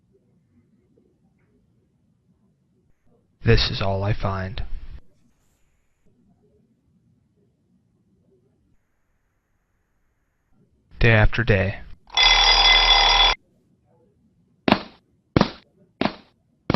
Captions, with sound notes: this is all I find. Day after day, [alarm clock ringing] [footsteps]